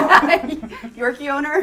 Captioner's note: laughter